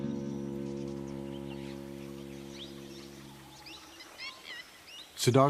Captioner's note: birds chirping